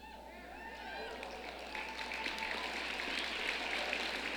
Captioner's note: audience cheering